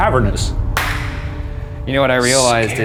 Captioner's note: claps hands